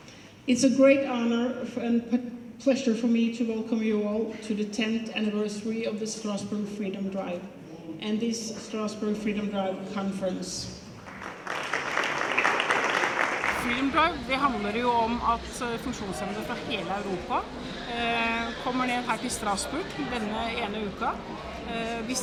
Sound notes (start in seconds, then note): 11.0 applause